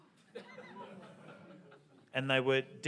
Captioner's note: audience laughs and murmurs